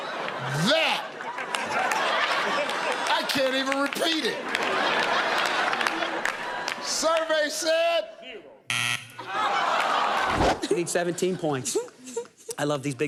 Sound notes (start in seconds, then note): 5.1 laughter; 8.7 buzzer; 11.3 laughs